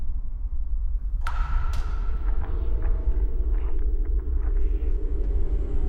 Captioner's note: drip echoing loudly